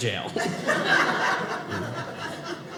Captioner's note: audience laughing